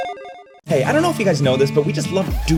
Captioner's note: voiceover